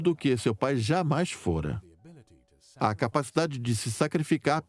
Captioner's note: voiceover